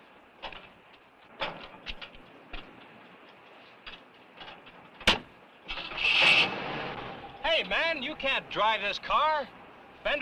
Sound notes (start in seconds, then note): 6.2 engine cranks